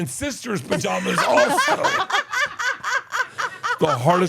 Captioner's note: laugh